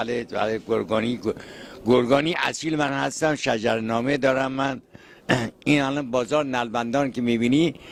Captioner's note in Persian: گلویش را صاف می‌کند